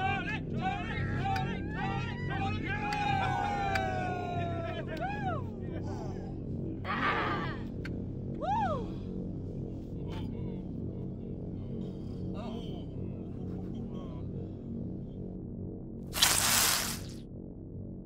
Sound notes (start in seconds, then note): 3.6 Tonys cheering; 6.4 suspenseful music